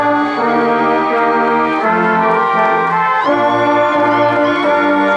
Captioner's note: crowd cheering and applauding